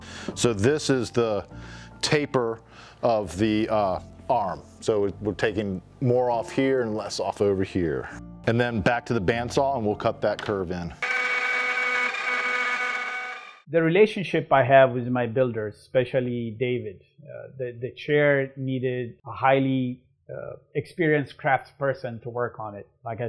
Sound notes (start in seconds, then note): 11.0 machine buzzing